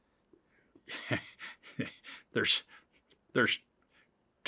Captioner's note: laughs